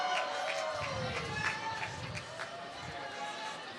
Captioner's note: applause